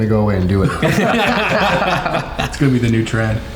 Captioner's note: everyone laughing